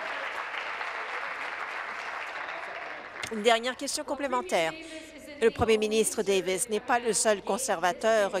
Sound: applause

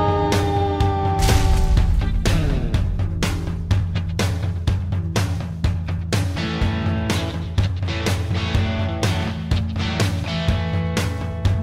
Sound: fire truck siren

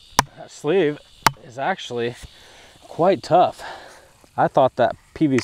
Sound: sigh

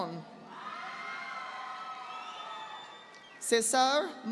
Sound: audience applauding

